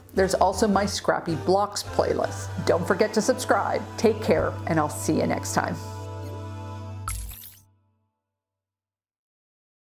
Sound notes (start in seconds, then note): 7.1 metal clinks